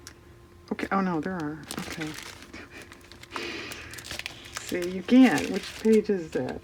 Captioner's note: laughs